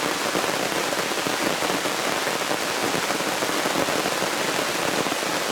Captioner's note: rain